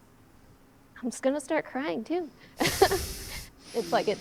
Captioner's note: laughs